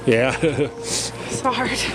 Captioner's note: laughs